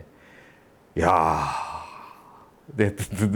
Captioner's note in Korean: 감탄